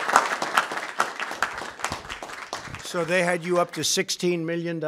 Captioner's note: applause